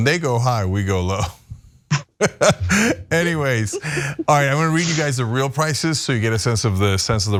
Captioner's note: laugh